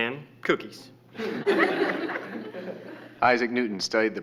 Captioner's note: class laughing